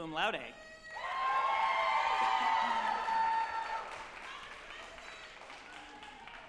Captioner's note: group applauding and cheering